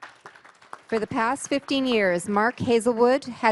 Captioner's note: applause